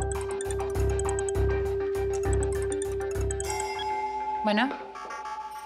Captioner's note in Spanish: suena el celular